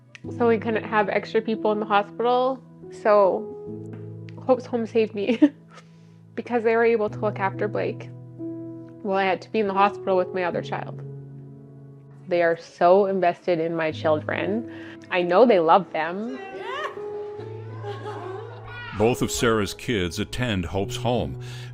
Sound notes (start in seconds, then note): 16.6 child vocalizing; 17.6 employee giggling